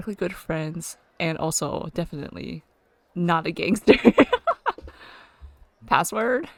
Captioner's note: laughs